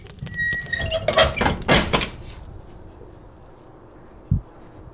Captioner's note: iron door creaking